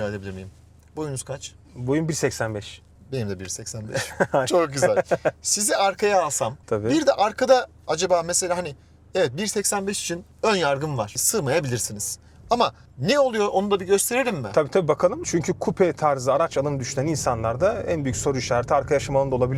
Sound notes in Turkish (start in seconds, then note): 3.9 kahkaha